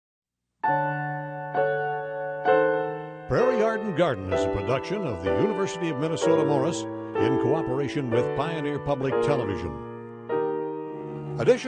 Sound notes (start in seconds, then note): 0.7 majestic piano music; 3.3 voiceover